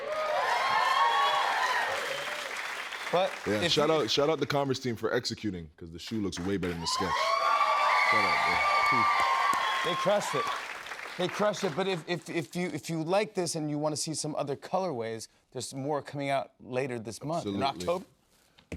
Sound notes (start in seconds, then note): 0.0 cheers and applause; 6.4 cheers and applause